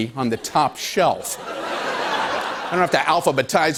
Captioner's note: laughter